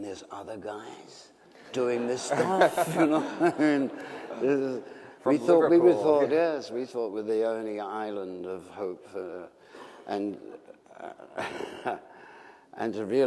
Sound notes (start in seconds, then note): 1.8 laughter